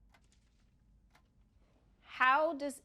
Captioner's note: clock ticking